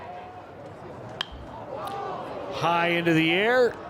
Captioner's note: bat taps